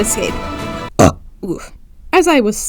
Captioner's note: burps